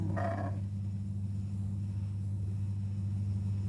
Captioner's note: ewe grunts